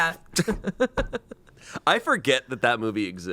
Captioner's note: laughs